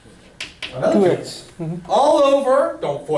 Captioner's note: voiceover